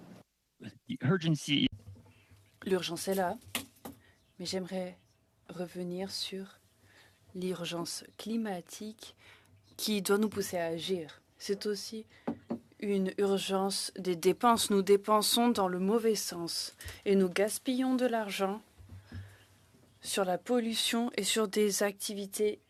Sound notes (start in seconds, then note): 9.6 speaking in French